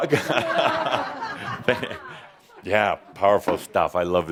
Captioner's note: laughter